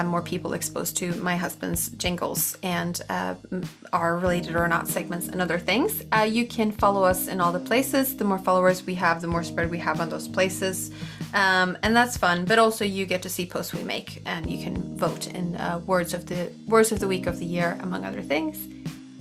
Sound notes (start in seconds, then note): none